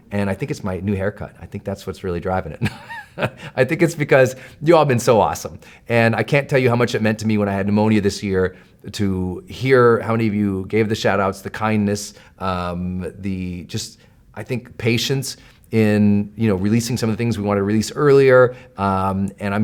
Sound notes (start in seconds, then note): 2.6 laughs